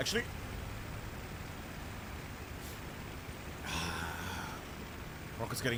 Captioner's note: sigh